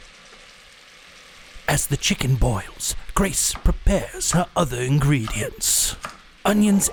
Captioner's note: voiceover